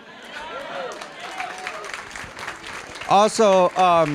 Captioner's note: applause